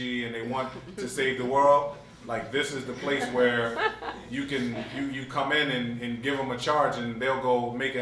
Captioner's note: laughter